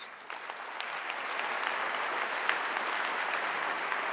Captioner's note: applause